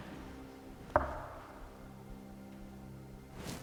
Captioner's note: metal hit; knock